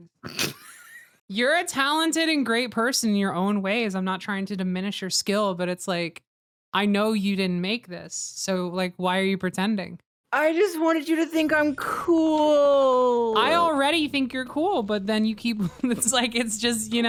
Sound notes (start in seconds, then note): 0.3 laughs; 10.4 whining